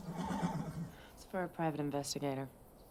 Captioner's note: horse whinnies